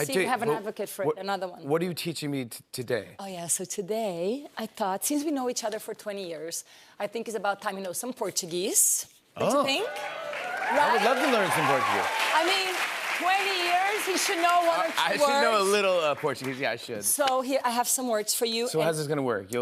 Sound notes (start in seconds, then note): 12.1 cheers and applause